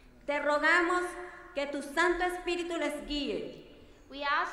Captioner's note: speaking in foreign language